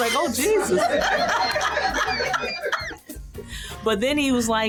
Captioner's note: laughter